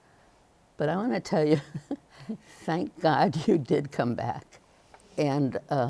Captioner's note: chuckles